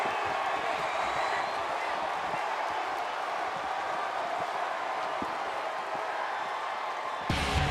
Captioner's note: applause